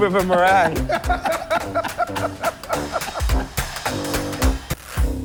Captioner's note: laughter